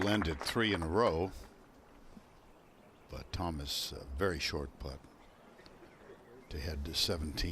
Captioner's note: applause